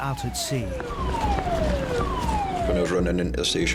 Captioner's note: siren blaring; footsteps plodding